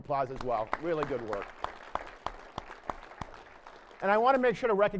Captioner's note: applause